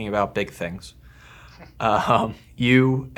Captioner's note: both laughing